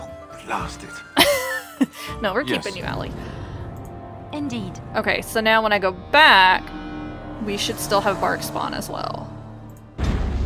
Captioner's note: laughs